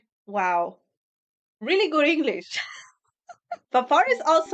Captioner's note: laughs